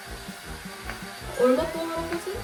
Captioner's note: zap